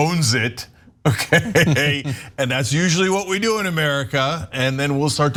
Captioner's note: laugh